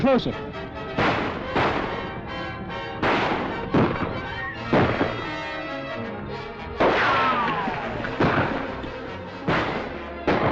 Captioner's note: gunshots